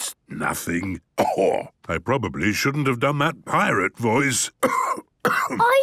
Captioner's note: cough